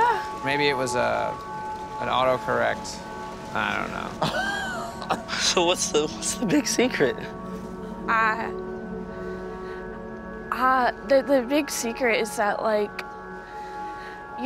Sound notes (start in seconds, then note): 4.0 Max laughs